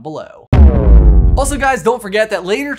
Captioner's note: electronic boom